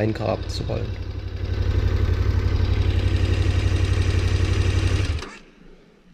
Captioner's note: engine noise